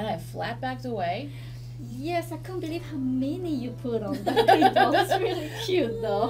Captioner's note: laughs